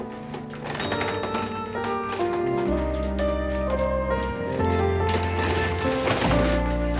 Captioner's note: wheels squeaking softly; thud